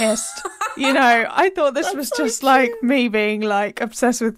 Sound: laughing

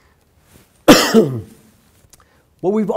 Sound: coughs

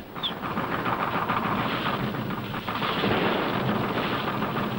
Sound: gunfire rattling

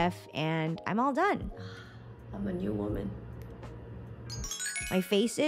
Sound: sighs; xylophone rings

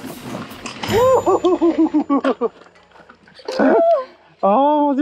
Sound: laughing

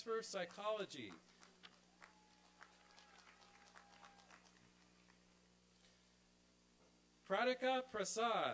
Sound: applause and cheering

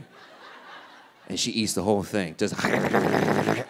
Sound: audience laughing; growls

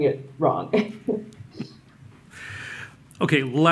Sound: laughter

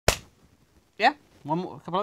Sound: clap

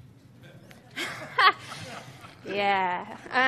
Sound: laughs

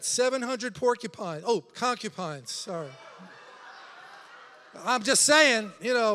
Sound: congregation laughing

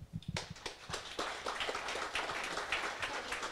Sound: audience applause

